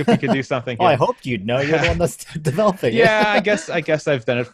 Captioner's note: laughs